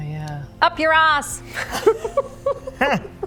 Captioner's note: shocked laughter